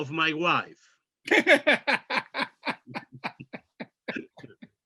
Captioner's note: laughs